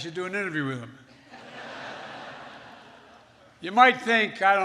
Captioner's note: laughter